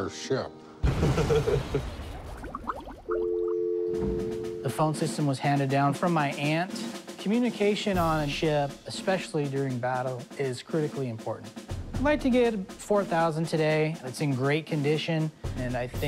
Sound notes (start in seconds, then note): 1.0 bubbles; 1.0 laughs; 3.1 dial tone; 3.6 drums